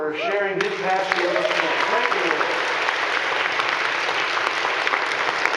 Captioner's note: audience clapping